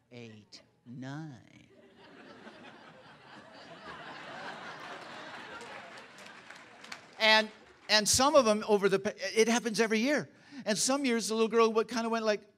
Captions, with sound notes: 8, 9. (Laughter) And... some of them, it happens every year. And some years, a little girls kind of went